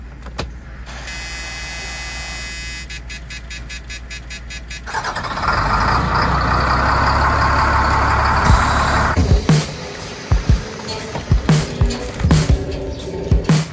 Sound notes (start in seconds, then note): 0.1 ignition buzzing; 3.3 engine cranking; 6.4 slow rhythmic music